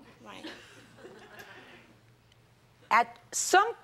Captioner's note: jury members chuckle